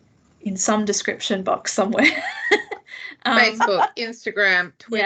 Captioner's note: laughs